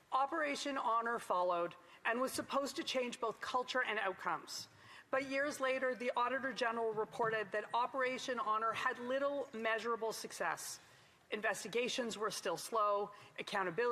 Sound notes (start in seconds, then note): none